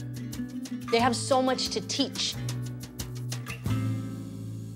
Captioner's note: speaking foreign language